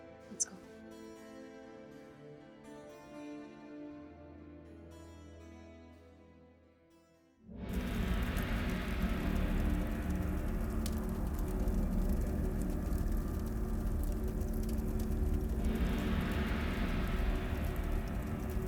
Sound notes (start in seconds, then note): 3.0 gentle music continues; 8.0 dramatic music; 11.1 fire crackling